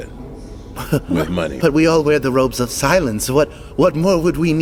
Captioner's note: laughs